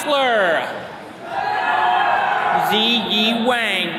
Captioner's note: attendees cheering